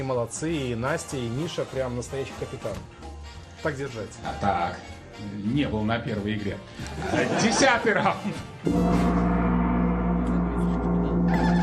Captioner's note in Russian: смех